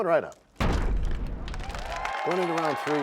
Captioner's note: crashing sound